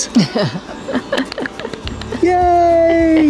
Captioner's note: laughing